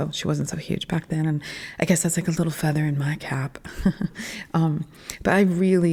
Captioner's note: laugh